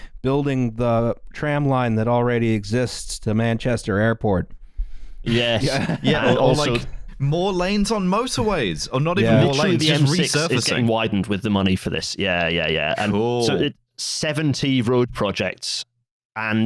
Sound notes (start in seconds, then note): 5.3 laughing